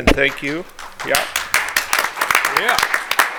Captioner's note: attendees applaud